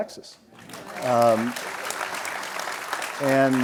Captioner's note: audience applauds